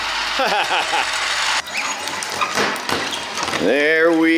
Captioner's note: laughter